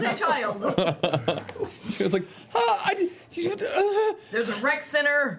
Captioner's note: stammering